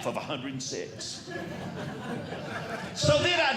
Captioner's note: audience Laughing